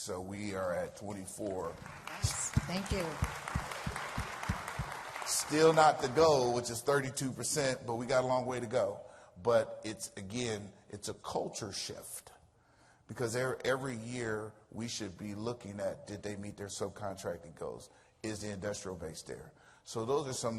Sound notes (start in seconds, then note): 4.4 applause